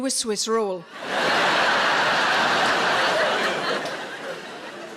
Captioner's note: audience laughs